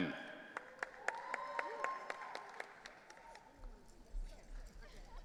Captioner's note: audience cheering